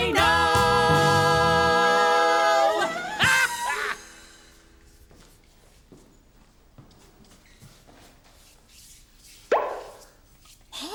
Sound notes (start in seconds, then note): 2.8 the Hoobs laugh; 9.5 soft pop